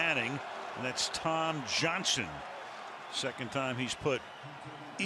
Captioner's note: pa announcement